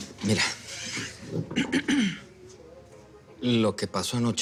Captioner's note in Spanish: Carraspea